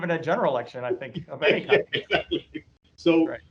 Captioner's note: both laughing